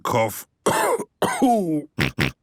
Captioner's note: cough; snort